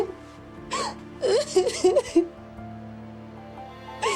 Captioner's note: crying